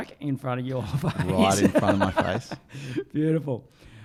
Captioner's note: laughing